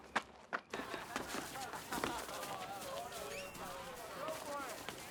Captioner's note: students laughing and chattering